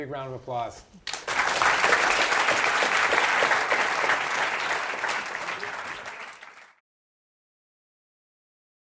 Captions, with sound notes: - Let's give a big round of applause. (audience applauds)